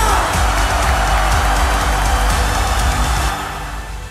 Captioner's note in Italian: il pubblico esulta